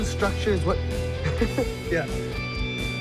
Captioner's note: giggling